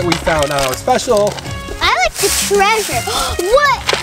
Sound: gasps

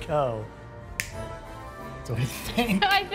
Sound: snaps fingers

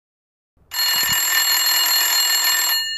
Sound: telephone Rings

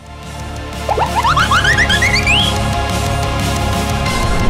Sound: goofy sounds

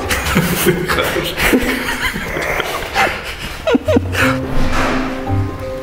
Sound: laughing

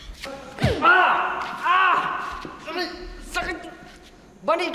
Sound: screams

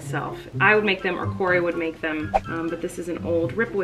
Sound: whooshing

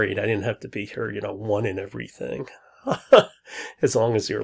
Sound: laughs

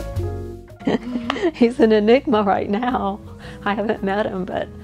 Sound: laughing

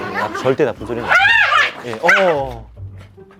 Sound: argh!

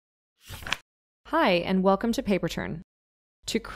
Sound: page flip sound

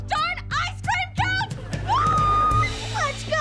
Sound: screaming

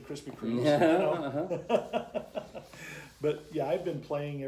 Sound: laughter

